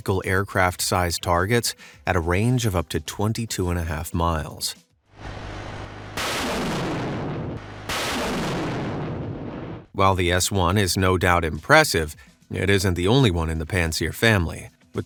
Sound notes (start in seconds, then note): 5.2 missiles roaring